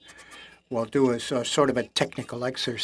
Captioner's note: speaking French